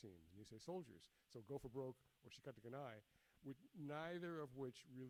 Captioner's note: speaks in foreign language